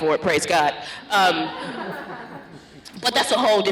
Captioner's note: laughter